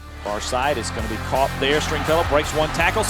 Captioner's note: voiceover